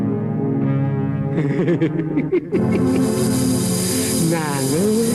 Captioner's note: lecherous laugh